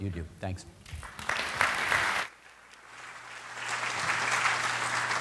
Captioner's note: applause